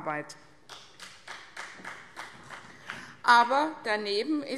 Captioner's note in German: Vereinzelter Beifall